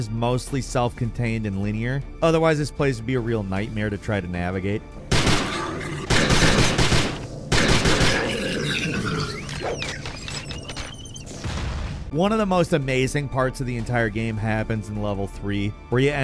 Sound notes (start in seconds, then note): 5.4 alien roars; 6.0 guns fire; 8.3 electronic machinery trills